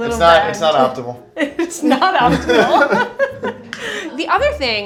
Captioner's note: laughing